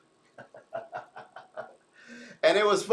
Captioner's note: laughs